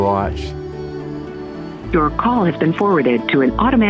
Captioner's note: Robotic voice